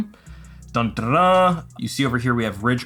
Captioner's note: mimics trumpet